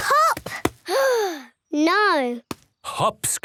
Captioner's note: sigh